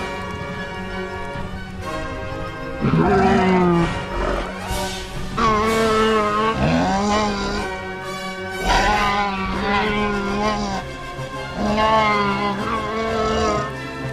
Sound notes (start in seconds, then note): 2.5 ankylosaurus Sounds